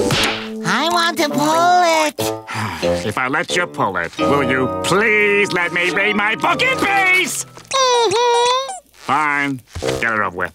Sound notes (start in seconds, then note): 2.4 sighing